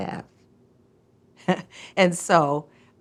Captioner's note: chuckles